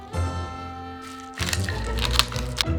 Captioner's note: pepper cracking